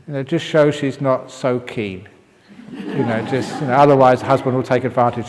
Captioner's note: laughter